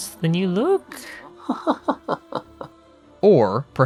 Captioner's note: laughter